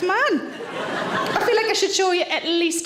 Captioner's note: audience laughs